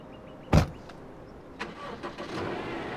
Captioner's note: car starts